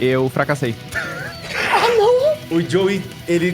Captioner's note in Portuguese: Risadas